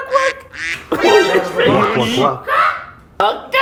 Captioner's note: confused